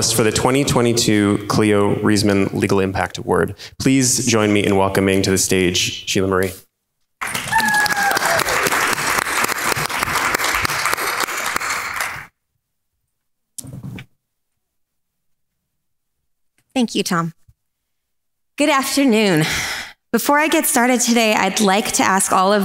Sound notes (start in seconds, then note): 7.2 crowd claps and cheers